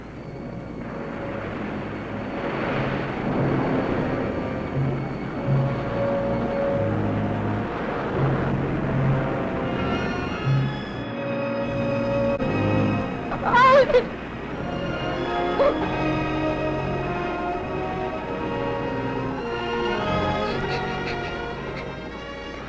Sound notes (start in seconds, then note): 0.2 dramatic music; 10.9 somber music; 13.3 Meg crying; 15.3 Meg gasping; 20.2 Sandy crying